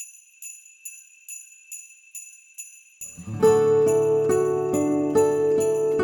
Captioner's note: bells jingling; bright music